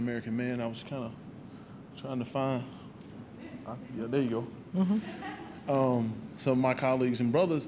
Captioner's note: laughter